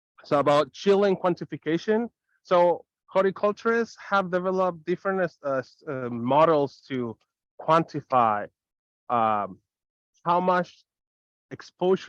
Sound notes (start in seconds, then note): none